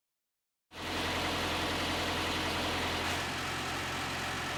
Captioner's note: machinery humming